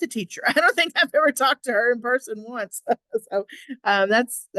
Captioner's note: laughter